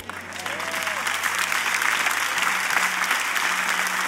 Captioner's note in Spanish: Aplausos